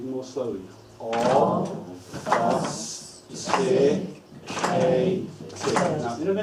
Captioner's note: clapping